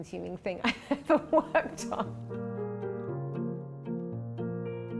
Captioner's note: laughs